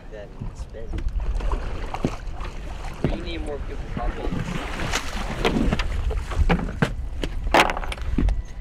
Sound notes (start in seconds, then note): 4.3 fish splashing